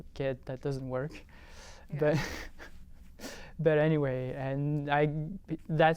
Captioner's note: laughter